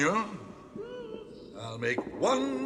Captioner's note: Toad sobs